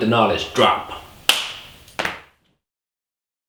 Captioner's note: hands clap